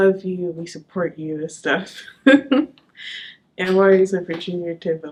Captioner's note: chuckles